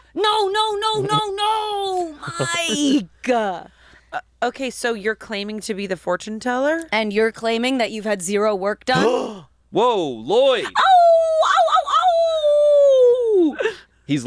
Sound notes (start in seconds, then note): 9.2 gasps; 10.8 howling